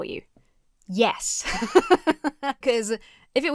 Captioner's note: laughs